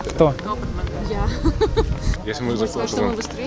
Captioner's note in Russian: смех